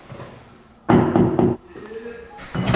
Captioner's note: knock, knock